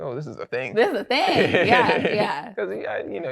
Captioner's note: laughs